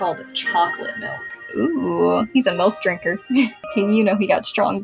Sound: chuckle

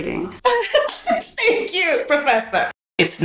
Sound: laughing

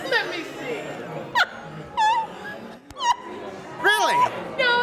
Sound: laughs

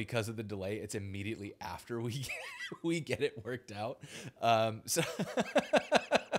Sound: laughs

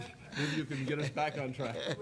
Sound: laughing

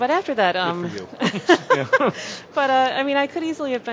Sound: laughs

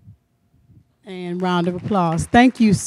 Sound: applause

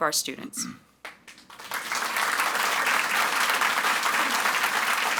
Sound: audience applauds

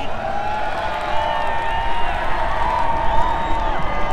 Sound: crowd shouting

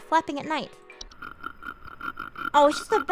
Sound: ASMR scratching noises

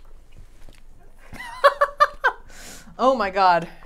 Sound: laughs

